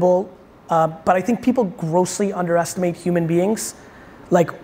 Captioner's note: none